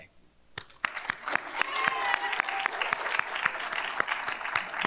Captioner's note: cheers, applause